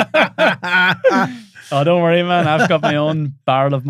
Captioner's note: laughing